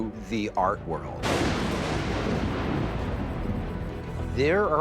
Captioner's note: thunder